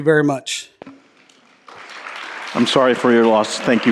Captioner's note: applause